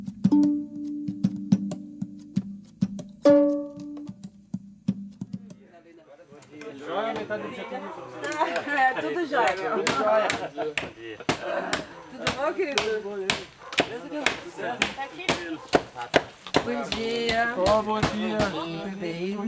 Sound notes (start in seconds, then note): 7.0 people talking